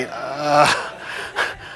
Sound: laughter

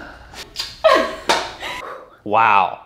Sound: lips smack; laughs; sighs

